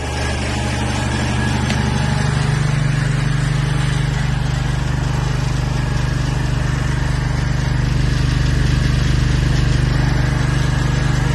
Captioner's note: motor going